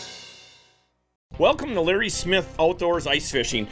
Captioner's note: rock music; voiceover